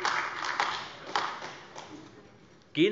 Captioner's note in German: Beifall AfD